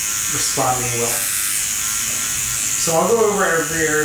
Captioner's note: pen buzzes